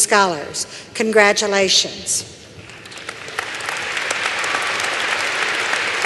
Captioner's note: applause